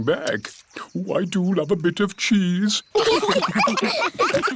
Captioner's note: laughter